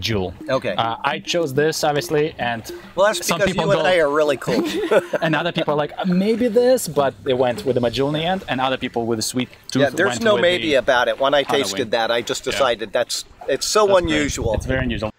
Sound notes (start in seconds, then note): 4.2 laughing